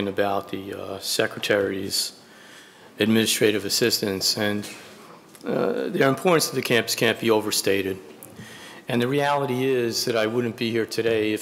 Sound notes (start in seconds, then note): none